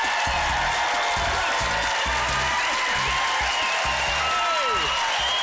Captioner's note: applause